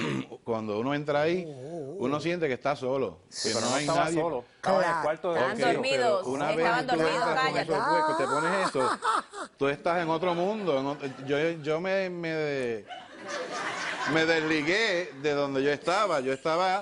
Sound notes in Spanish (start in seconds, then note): 4.6 Comentarios al unísono; 12.9 Risas del público